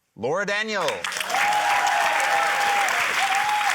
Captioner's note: cheering, applause